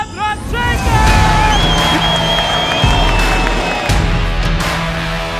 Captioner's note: crowd cheering; upbeat music